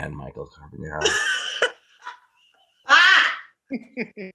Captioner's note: laughing